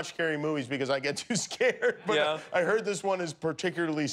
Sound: laughter

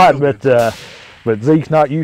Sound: gun fire

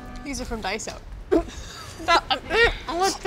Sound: laughing

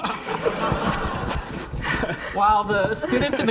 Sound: audience laughing

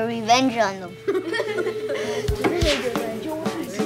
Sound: laughing

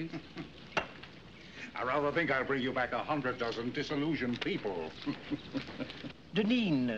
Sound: chuckles; chuckles

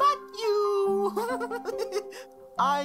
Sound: laugh

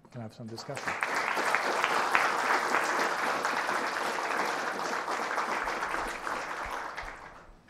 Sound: applause

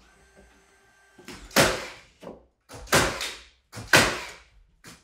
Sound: nail gun thumping

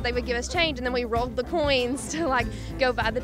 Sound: laughs

